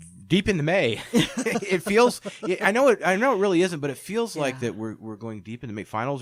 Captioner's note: laughs